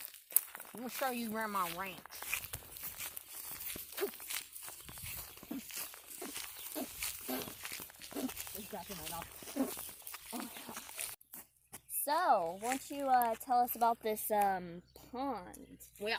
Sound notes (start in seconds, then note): 5.0 spits out grass; 6.1 more spitting noises; 8.0 spits; 8.8 regular voice; 10.3 laughs